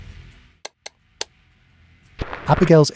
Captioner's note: ticking